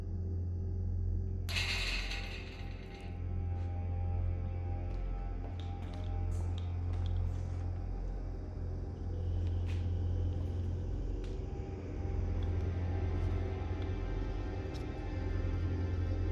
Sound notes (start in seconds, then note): 1.5 metallic clattering